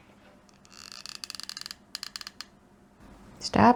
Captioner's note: glue gun creaks